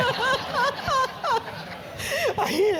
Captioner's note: laugh